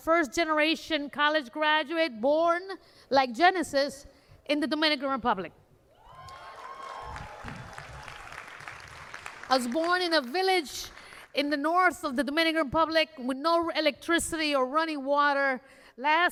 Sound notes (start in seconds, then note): 9.0 cheers and applause